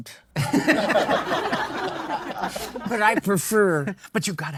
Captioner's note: audience laughing